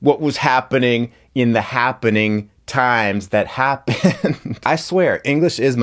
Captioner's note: laughs